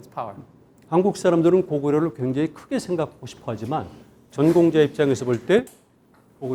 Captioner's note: speaking in Korean